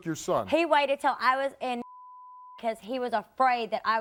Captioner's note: beeping